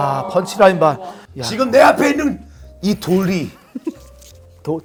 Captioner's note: haha